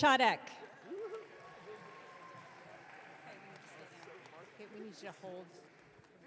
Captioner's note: audience cheering